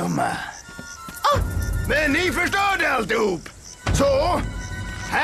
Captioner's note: gasps